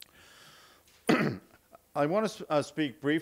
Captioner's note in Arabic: تطهير الحلق